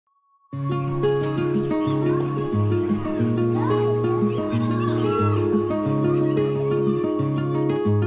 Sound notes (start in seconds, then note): 3.3 children playing